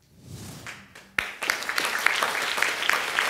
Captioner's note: audience clapping